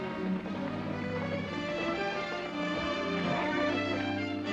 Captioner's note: hoofbeats approach